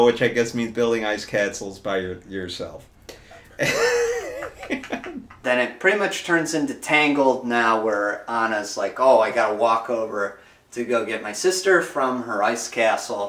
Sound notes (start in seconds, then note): 3.2 laughs